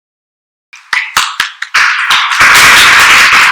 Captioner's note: boisterous applause